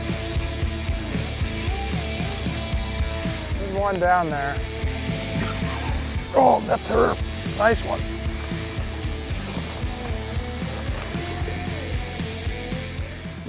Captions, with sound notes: There's one down there. Oh, that's her! (fishing line whirling) Nice one. (water splashing)